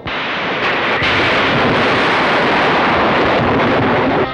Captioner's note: thunder crashing